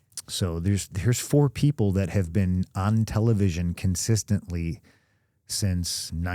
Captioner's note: none